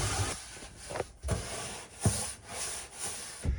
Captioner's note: scrubbing